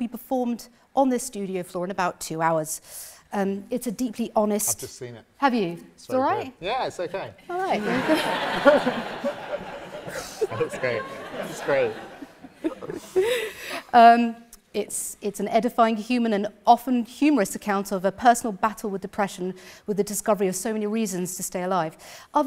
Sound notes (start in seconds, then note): 7.6 audience laughs